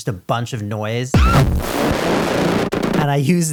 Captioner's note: screeching, stuttering distortion